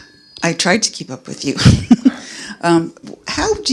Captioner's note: laughing